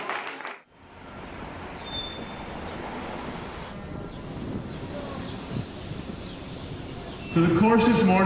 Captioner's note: street ambience